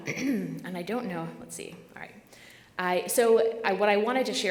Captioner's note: clears throat